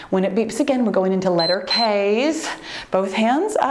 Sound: timer beeps

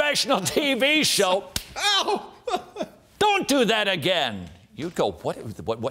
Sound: smack

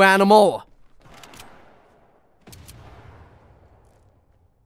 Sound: guns cocking

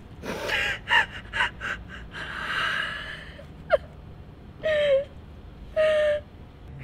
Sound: sobs

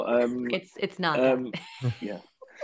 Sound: laughs; group laughing

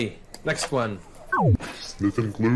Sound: buzzes

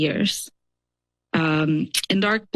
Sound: pause

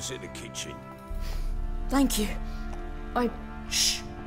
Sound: sniffle

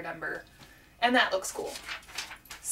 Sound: turning pages

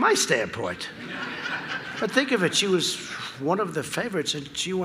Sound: laughter

